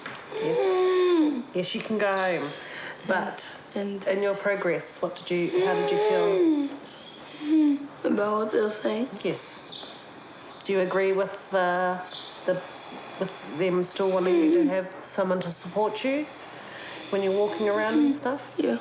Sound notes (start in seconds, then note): 6.8 wheezes